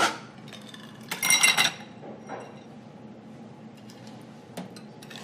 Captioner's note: ice cubes clinking